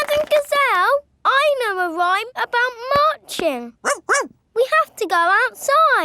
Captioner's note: laughing and clapping; barks